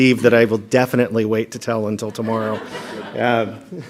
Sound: laughter

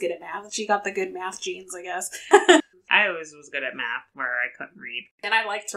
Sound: laughs

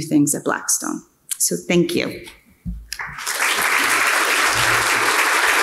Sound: audience applauding

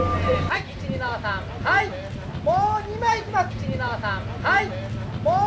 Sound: photographer shouting

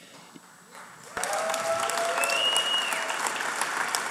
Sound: applause

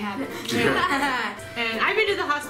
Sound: laughing

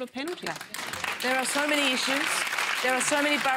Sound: applause

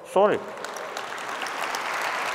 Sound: applause

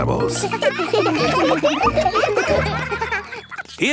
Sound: children laughing

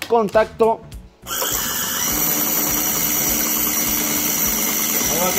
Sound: engine

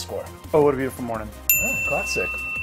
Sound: bell rings

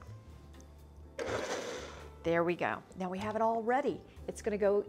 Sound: blender whirring

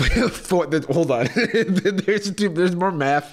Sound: laughs

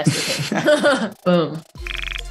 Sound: both laughing

